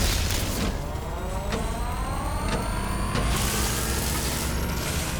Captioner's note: machine whirring